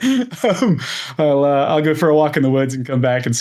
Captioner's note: laughs